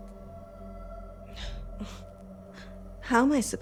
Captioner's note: Dorothy sighs